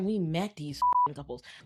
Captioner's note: beep